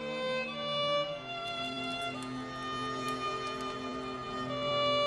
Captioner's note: fire crackling